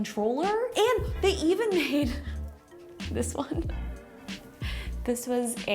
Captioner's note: laughs